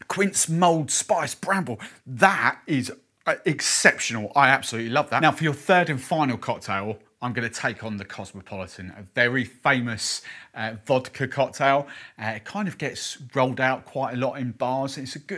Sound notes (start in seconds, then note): none